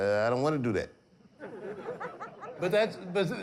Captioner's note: audience laughing